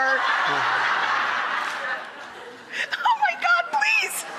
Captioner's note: audience laughing